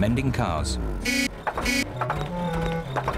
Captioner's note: horn honks